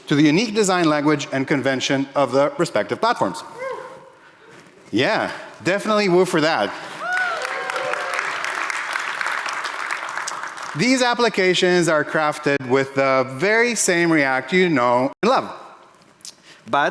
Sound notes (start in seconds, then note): 7.0 audience applauding